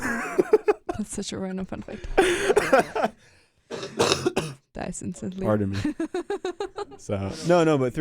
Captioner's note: laughs